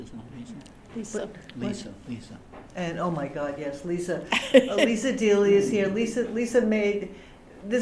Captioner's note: laughter